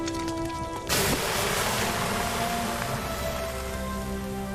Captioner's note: sizzling